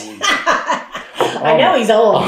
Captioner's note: laughter